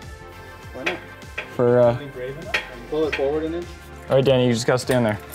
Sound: mechanics chattering

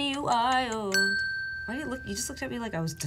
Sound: bell dinging

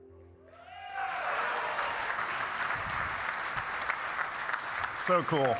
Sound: audience cheering and applauding

